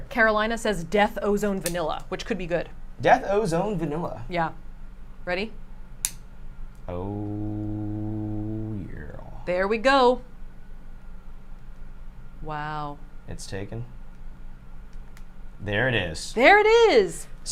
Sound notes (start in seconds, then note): 6.0 lighter clicks